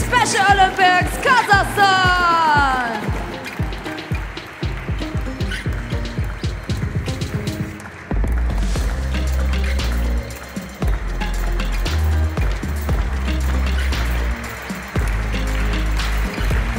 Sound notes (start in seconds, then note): 4.2 applause; 4.2 ♫ Midtempo guitar music ♫